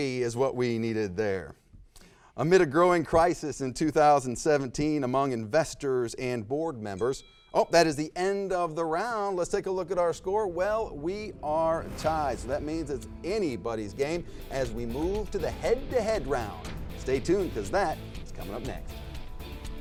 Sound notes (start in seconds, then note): 7.0 bell dings; 14.1 dramatic music